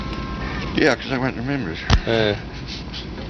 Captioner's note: chuckles